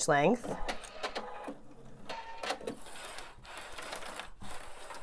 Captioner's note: machine clicks